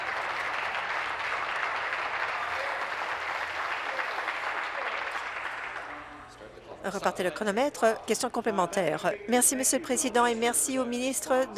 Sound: applause

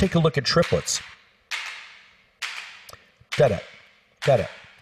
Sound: rhythmic clapping

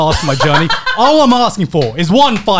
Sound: laughing

